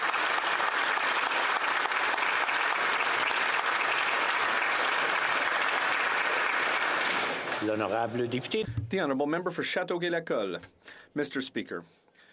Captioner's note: applause